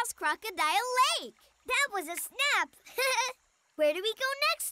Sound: chuckles

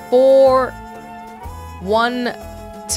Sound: none

